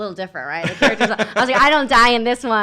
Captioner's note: laughs